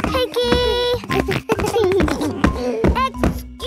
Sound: giggles

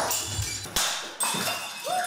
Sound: nat pops of objects getting smashed

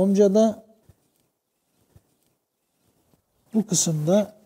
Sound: rustle and bird sounds

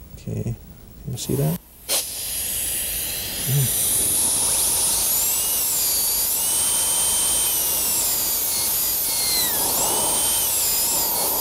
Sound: drilling sound

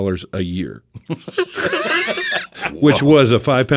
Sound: group laughs

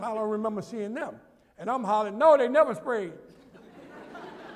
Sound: laughter

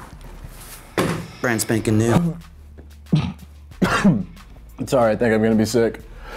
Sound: cough

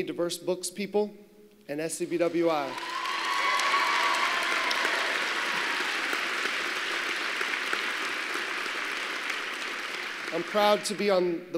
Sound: applause

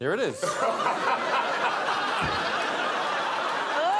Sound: crowd laughs

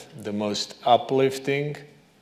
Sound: none

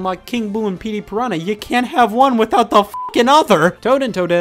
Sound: beep

